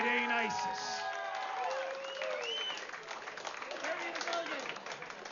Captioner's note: vítores y aplausos